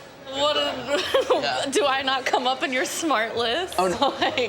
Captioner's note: laughs